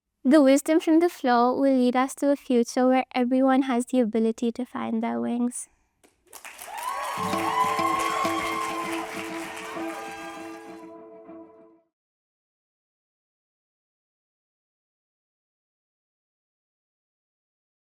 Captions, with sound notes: The wisdom from the floor will lead us to a future where everyone has the ability to find their wings. (applause and cheering) (upbeat music playing)